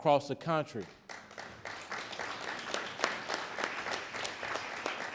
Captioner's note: audience clapping